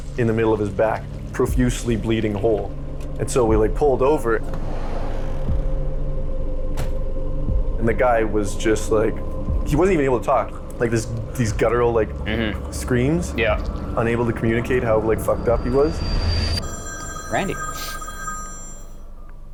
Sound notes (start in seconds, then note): 16.5 phone rings